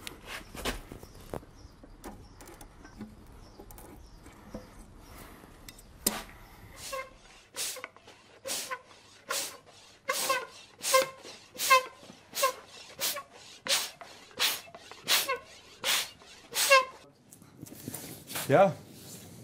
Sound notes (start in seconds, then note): 6.8 soft squeaking